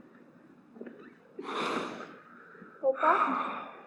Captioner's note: sniffles and sighs